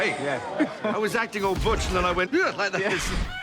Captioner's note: laughs; exclaims